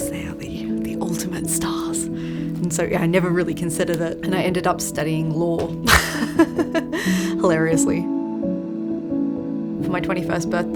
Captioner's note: laughs